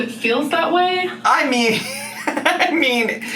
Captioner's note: laughs